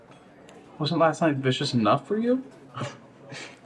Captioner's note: snickers